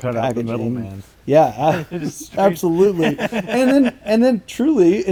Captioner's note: laughing